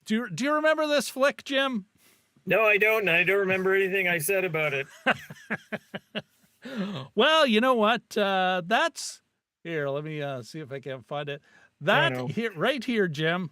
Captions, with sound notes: Do you remember this flick, Jim? No, I don't and I don't remember anything I said about it. (laughing) Well, you know what, that's, here, let me see if I can find it. That right here, Jim.